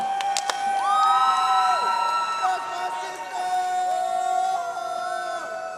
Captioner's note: audience cheering and applauding